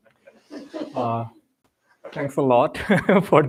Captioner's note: laughter